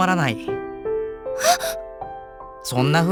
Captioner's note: gasp